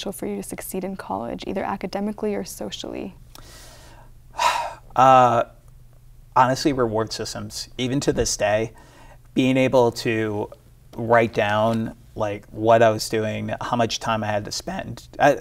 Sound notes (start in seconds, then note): 4.3 person sighs heavily